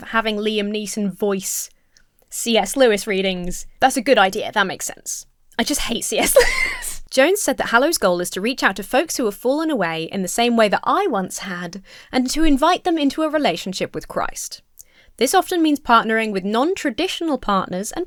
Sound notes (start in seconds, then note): 6.2 breaks into laughter